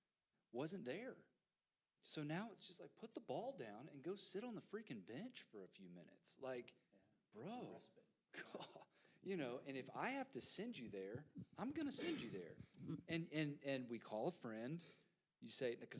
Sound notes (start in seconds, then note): 7.0 quietly; 8.3 chuckles